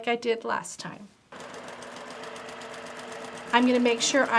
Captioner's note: machine whirring